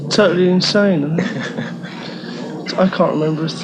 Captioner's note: giggling